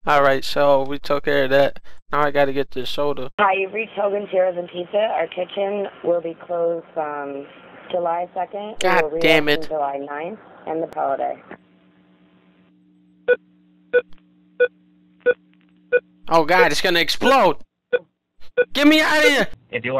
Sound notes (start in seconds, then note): 13.3 array of beeping; 18.5 beeping continues